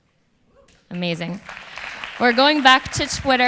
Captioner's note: audience applause